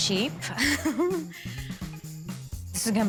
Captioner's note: laughs